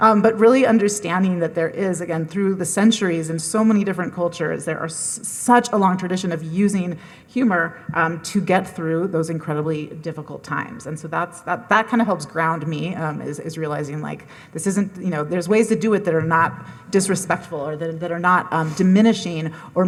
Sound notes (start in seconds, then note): none